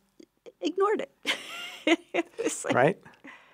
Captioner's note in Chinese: 笑~~